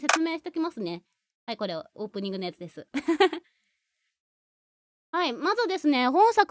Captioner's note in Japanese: 笑い